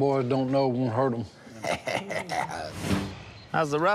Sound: laughs

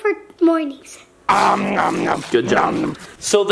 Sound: eating noises

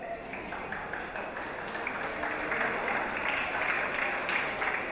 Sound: audience applause

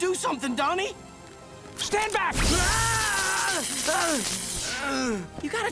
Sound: screaming

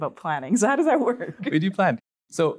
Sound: laughs

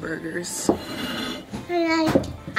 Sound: plate scraping on table

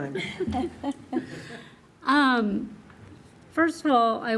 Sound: trustees laughing

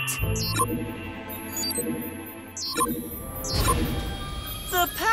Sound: beeping

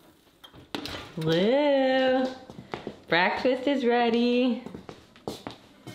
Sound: pan banging on rack; oven door shutting

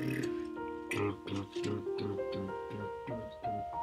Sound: Mr. Root slow vocalizing; slow piano music

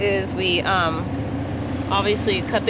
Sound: boat engine running

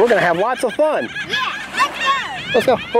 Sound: birds squawking

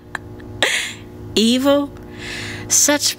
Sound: chuckles

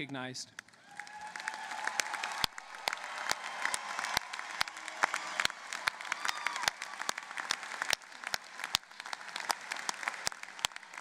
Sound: applause

